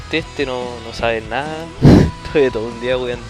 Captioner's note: laughs